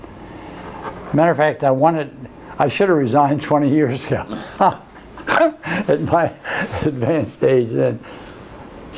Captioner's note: laughs